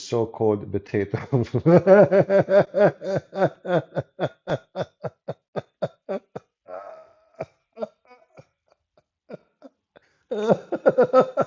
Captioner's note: Ketawa